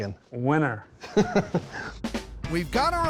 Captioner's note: laughs